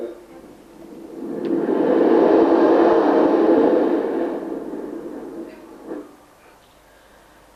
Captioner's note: shri mataji blows into the mic